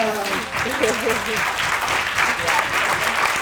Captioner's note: audience applauding